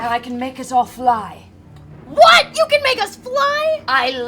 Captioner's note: shouting